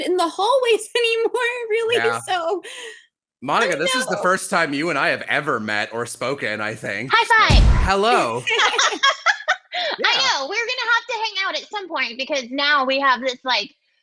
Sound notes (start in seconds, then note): 7.5 crash; 7.8 laughs